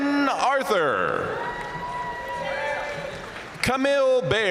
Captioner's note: audience cheering and applauding